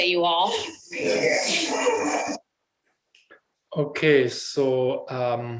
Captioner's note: people sobbing